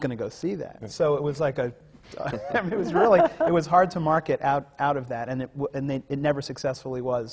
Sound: laughs

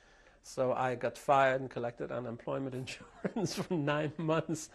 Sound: laughs

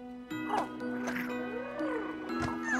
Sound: purring

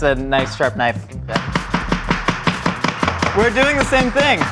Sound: chopping

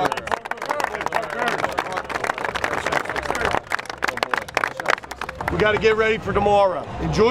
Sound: applause

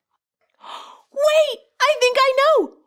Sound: girl gasps

